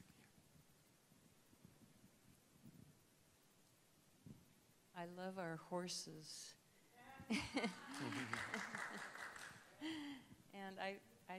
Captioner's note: laughter; applause